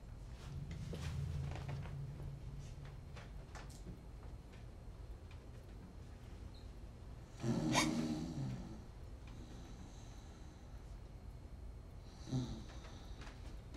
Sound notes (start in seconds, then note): 7.7 Alice gasps, concerned; 7.7 father snores, violently; 12.2 father snores, gently again